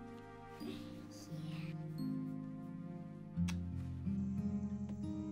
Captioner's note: kisses